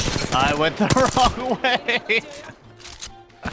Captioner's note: laughter